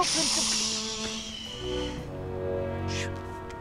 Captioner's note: Nicolas hushes